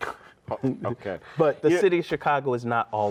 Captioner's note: scoffs